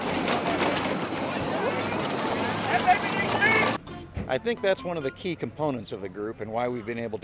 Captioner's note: sound of mower on pavement